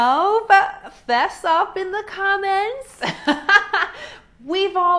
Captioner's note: laughing